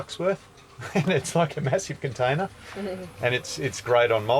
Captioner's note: chuckles